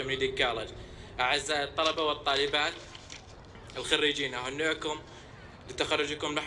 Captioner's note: in Arabic